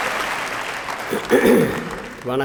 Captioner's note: clearing throat